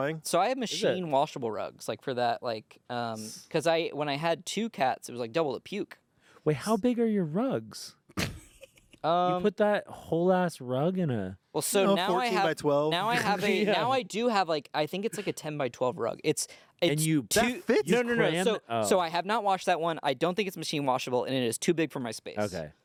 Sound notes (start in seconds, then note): 8.2 laughs